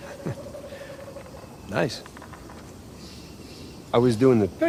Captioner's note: chuckles